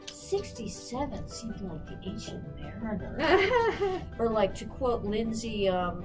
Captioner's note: laughs